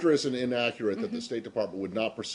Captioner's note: laughter